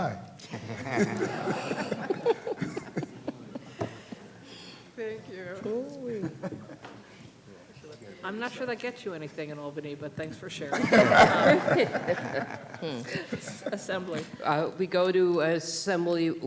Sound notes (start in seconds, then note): 4.0 laughter